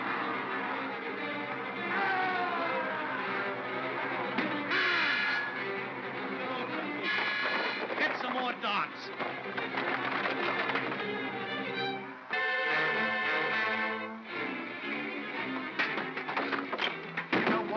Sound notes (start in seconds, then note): 0.0 suspenseful music; 1.9 Bogeyman cries out; 4.3 clunk; 4.3 Bogeyman groans; 6.2 suspenseful music; 9.0 darts clatter; 11.1 suspenseful music